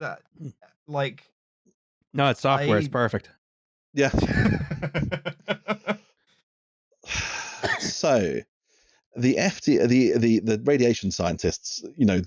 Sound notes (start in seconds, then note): 4.1 laughter; 7.0 laughter